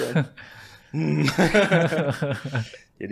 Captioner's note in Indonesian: tertawa